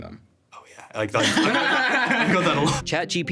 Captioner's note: everyone laughing